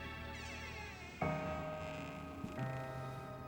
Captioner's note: hinges squeaking